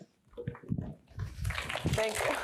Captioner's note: applause